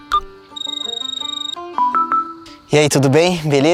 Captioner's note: typing; mobile phone ringing